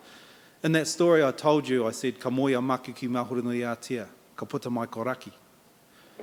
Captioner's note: in Maori